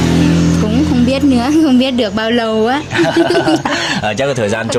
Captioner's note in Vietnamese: tiếng cười